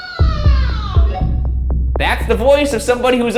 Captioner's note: wailing over radio; radio beeps